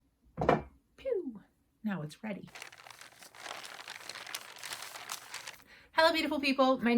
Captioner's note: yarn falling into mug